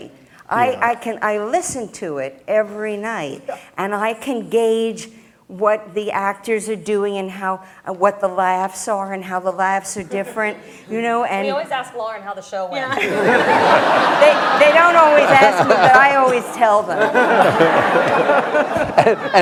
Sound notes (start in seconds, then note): 12.9 laughter